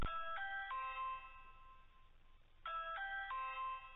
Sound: doorbell ringing

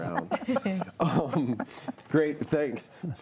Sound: all laughing

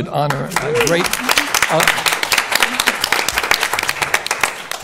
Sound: applause

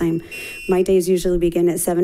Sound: buzzer chimes

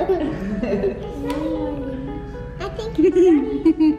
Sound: people giggling

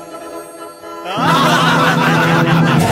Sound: laughs

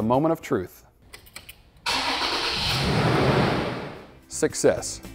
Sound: engine Starting

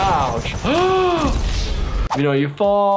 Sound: gasping

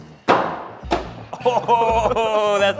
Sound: chopping

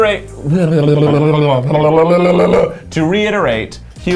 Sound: tongue sputtering

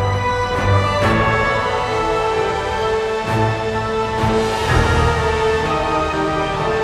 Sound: none

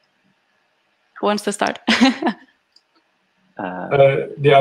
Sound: laughs

